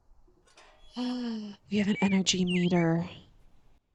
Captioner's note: gasp